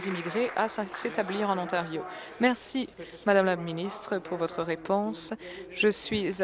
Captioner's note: applause